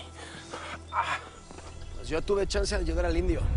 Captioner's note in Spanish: Quejidos